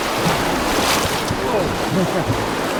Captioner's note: water splashing